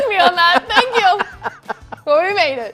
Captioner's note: laughing